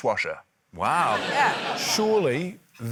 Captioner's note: laughter